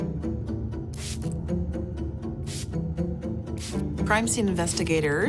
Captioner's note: spray spritzing